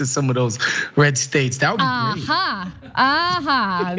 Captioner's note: laugh